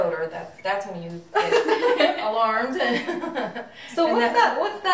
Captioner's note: laughing